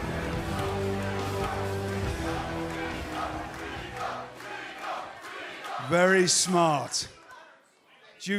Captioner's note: crowd cheering